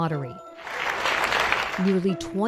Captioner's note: crowd applauding